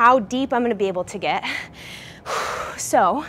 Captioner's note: exhales loudly